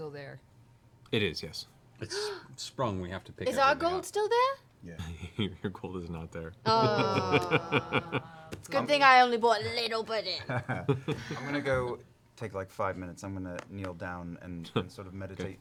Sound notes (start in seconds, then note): 6.6 groaning